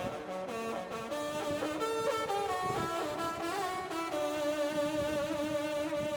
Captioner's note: agressive wind blowing